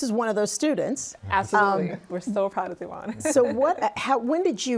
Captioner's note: laughs